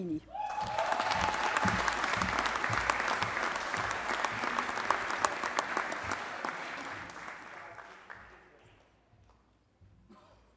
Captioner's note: applause